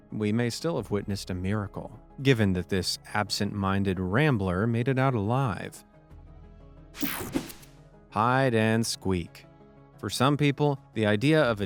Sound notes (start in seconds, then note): 7.0 screen buzzing